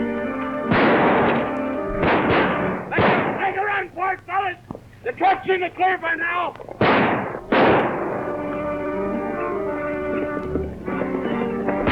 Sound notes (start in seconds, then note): 0.6 gun fires; 2.2 guns fire; 6.7 guns fire; 7.7 tense music